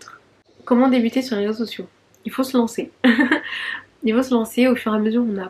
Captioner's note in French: rires